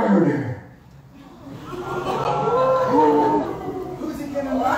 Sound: audience gasp

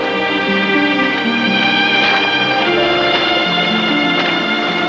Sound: flowy music; rocks crunching underfoot

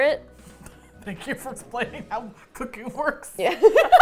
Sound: laughing; both crack up

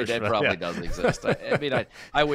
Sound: laughing

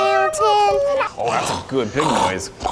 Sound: snorting

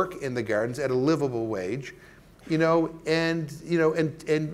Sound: stammering

